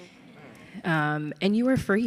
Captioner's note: audience laughs